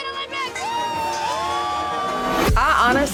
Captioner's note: cheering